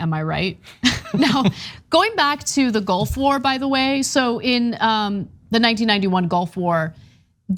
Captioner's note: laugh